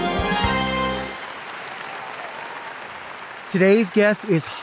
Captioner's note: audience applauds